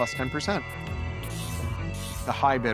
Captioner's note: auction bell rings